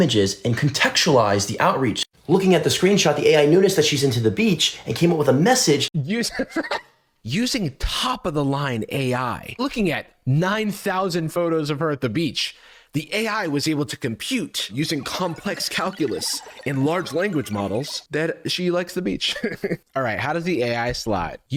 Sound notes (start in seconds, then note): 6.4 laughs; 14.7 computing sound effect; 19.5 chuckles